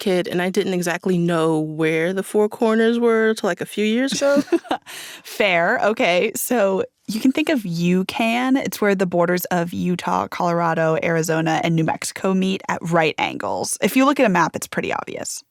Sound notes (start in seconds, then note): 4.1 laughter